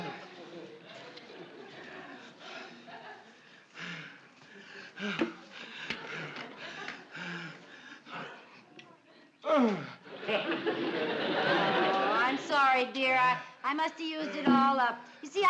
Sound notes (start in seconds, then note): 0.3 breathing hard; 9.5 groaning